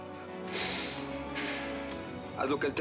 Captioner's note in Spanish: exhala